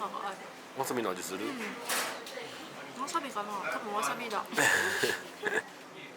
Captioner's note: laughs